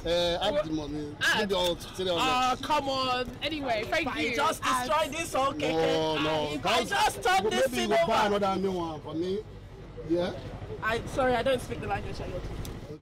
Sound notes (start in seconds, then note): 0.1 keke driver speaking pidgin English; 3.5 DJ Ayizan speaking pidgin English; 7.5 keke driver speaking pidgin English